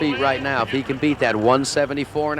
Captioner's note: voiceover